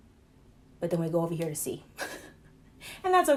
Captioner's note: laughs